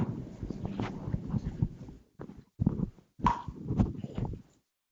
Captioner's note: mics distorting